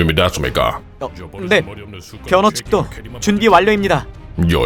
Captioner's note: Ornn murmuring about the yellow hair dude getting carried